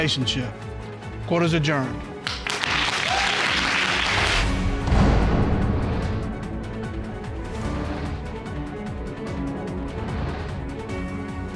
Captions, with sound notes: for a good relationship. Court is adjourned. (AUDIENCE APPLAUDING)